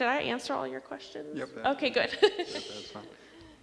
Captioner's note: laughs